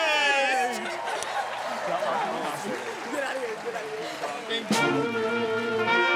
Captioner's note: applause